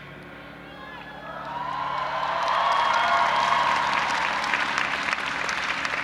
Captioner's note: audience applauding and cheering